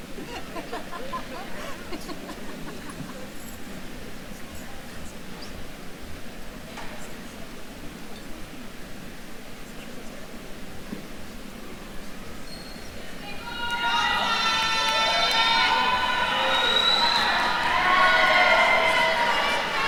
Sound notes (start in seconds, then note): 0.4 faculty member laughing; 7.3 attendees faintly chattering; 13.2 attendees cheering